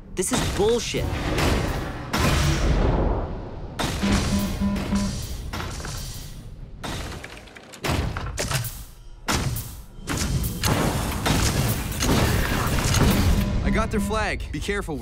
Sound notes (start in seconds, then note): 4.0 alarm ringing; 10.6 guns firing; 13.2 alarm ringing